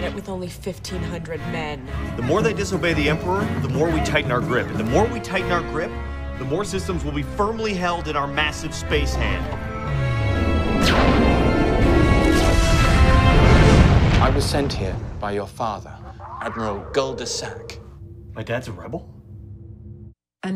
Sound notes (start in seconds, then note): 10.7 laser fire